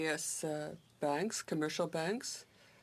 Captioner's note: speaking in french